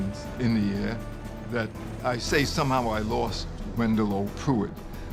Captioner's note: none